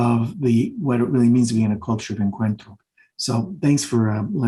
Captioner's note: speaking Spanish